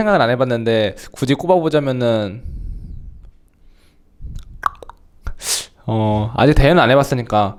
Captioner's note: clicks tongue